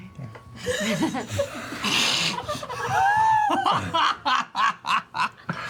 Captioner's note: laughter